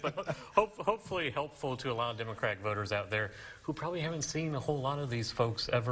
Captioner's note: chuckling